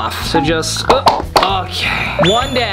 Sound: popping sound effect

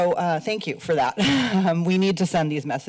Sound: chuckles

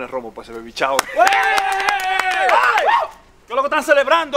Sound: everyone Cheering

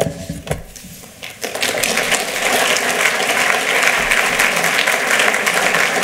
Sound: applause

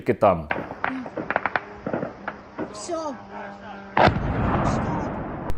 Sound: explosions, drone sound

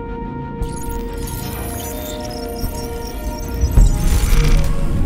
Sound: electronic beeping, chirping

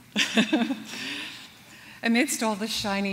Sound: laughter

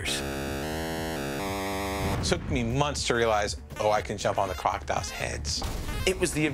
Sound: arcade sounds

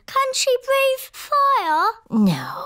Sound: none

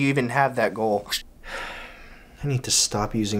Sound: sigh

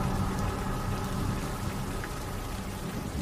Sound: thunder rumbles

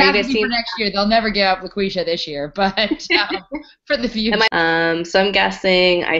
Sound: laugh

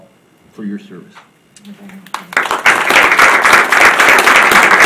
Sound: audience applauding

